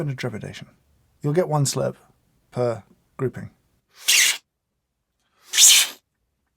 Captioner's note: slurps